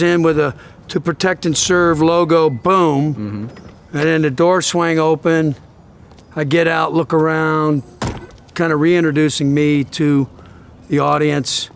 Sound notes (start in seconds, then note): 7.8 car door closing